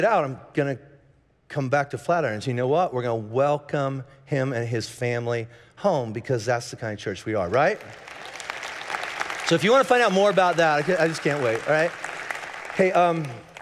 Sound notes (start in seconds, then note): 7.6 congregation cheering and applauding